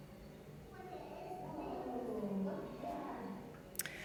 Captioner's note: children talking